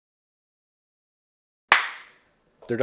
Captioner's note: clap sync